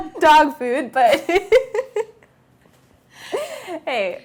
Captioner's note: laughing